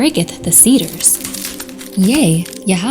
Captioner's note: wood cracking